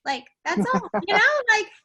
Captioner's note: laughing